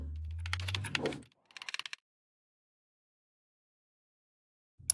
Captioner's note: keyboard clicking